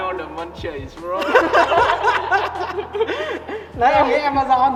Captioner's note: more laughing